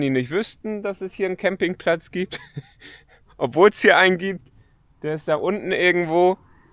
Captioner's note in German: gelächter